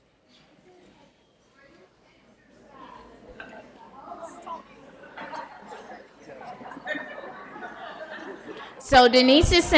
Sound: background Conversation

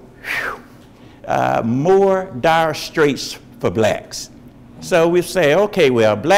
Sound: exhales

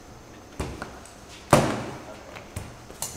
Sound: smack

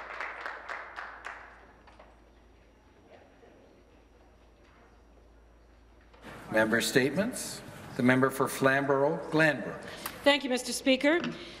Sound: some Applause

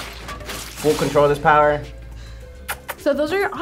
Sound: smacks lips

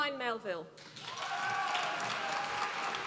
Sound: applause

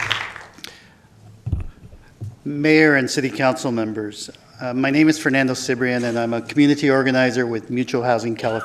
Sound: applause

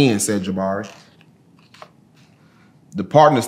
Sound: pages rustling

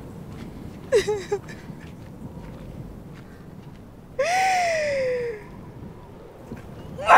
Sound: crying

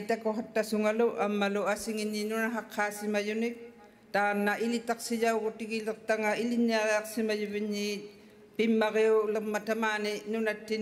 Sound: speaking Indigenous Language

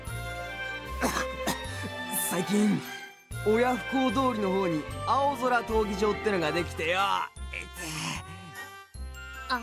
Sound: cough!

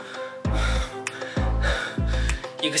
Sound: panting

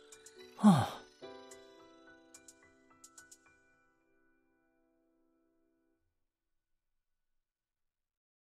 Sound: sigh

